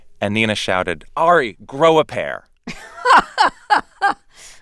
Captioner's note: laughter